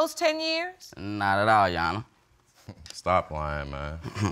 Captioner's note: chuckles softly